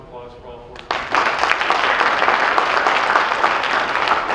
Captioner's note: applause